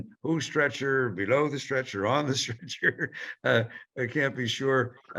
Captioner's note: chuckles